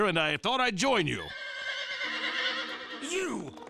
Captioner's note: horse whinnies